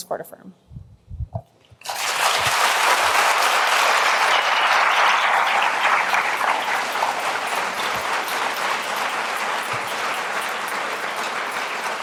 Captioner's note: applause